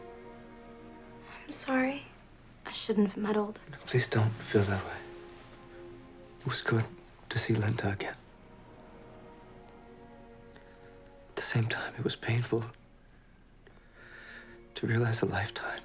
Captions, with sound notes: (footsteps shuffling) (pensive music) - How'd it go with Linda? - Painful.